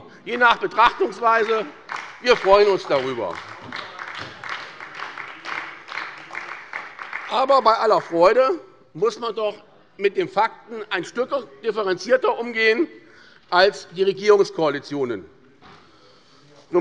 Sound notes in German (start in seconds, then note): 4.0 Beifall bei der SPD